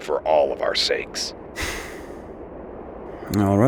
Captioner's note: Wildcard exhales smoke through nose